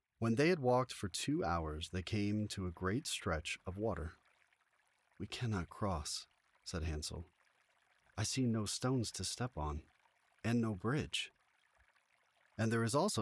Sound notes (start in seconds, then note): 4.2 water ripples gently